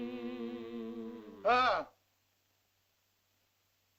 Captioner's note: Loana and caveman hum; Tumak grunts